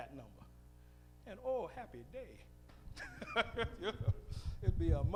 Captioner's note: laughs